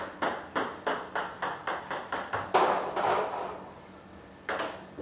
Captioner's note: balls ping pong hitting continues